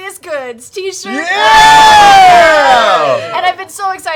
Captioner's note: cheering